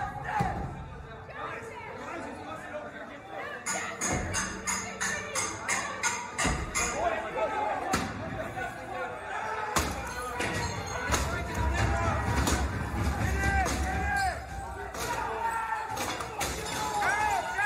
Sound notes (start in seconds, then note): 0.0 yelling